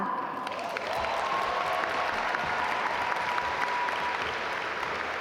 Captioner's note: audience applaud